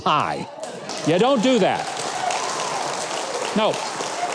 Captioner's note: audience applauding